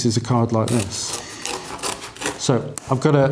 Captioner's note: scissors crunching